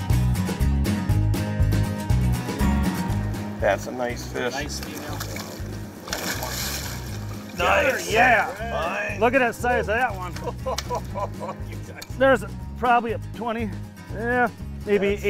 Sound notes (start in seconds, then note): 4.9 voiceover; 7.6 cheering; 10.2 laughing